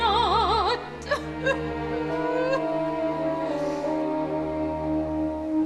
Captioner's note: Margaret weeps